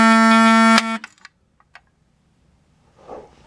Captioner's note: fire beeper stops yet again